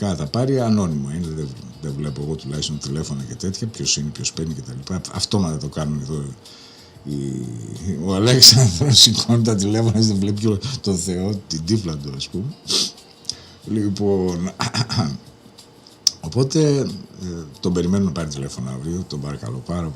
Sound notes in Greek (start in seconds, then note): 14.6 χαχανίζει